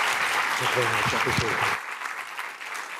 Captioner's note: applause